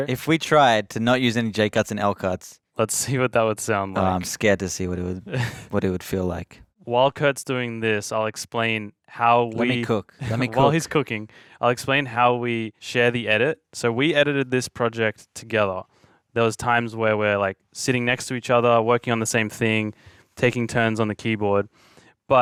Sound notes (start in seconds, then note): 5.3 chuckling; 9.6 chuckling